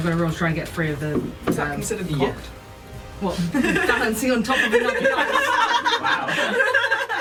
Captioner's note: laughter